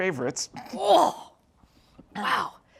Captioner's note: Julia yells out